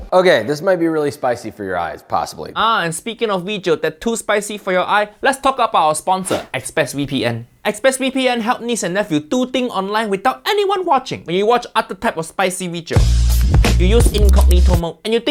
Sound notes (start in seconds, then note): 6.3 air whooshing; 13.0 gritty music